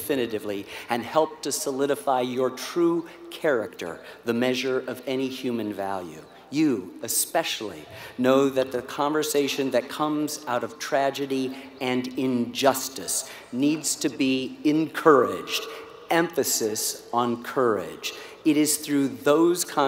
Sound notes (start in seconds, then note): none